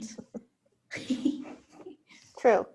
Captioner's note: women laughing